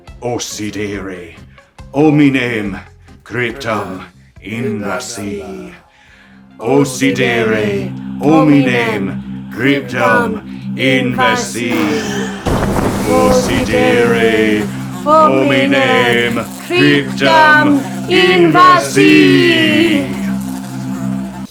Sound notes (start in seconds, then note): 11.5 cauldron Magic Sounds